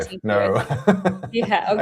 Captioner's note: laughs